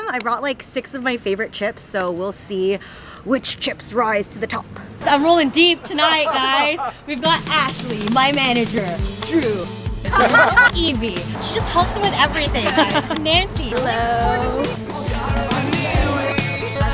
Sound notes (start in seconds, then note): 5.1 laughing; 8.5 spirited music